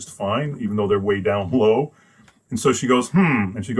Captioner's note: laughs